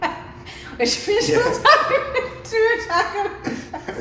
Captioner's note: laughs